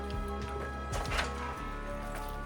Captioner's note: door opens